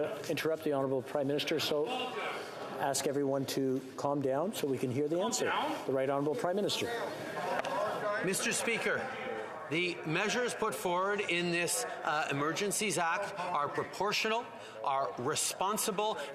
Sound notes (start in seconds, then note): 3.3 yelling